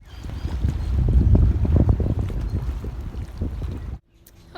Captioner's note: water and wind noises